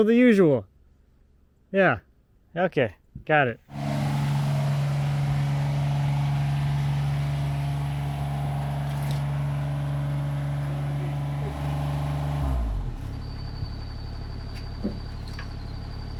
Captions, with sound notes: The, so the usual. Yeah. Okay, got it. (machine rumbling)